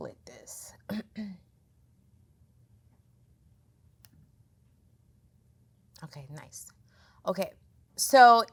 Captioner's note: cough